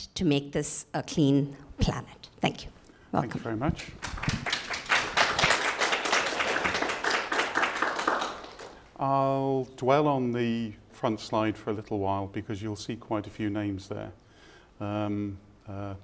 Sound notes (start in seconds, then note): 5.3 attendees applauding